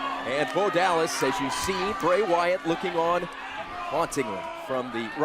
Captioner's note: bell ringing